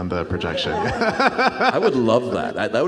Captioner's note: audience laughs